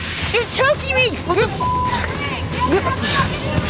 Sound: beep; on-lookers yelling

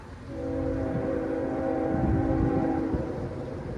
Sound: train horn blaring

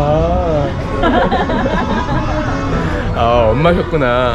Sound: addictive laughter

